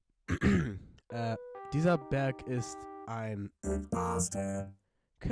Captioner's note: clears throat